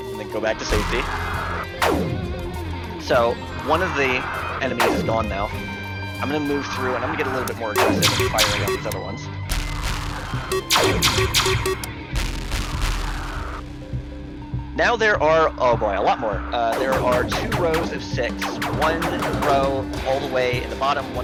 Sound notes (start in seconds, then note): 9.6 in-game ship shooting; 10.3 in-game ships exploding